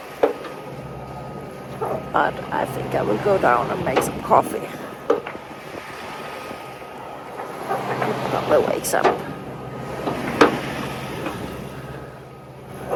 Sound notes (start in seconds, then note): 6.5 sound of waves